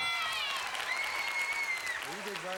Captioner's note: audience applauding